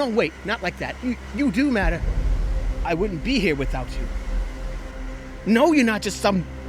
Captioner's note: birds flying away